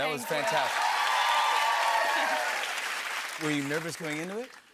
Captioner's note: cheers and applause